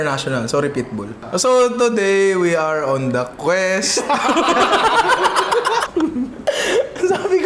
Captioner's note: laughter